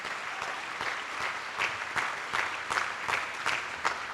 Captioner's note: attendees applauding